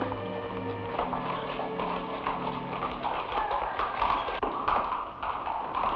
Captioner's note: horse hooves patter